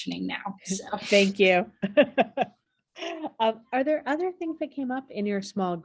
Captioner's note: laughter